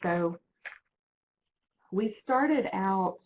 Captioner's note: page flips